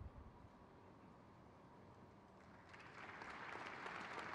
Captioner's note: crowd cheers